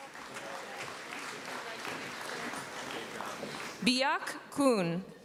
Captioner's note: applause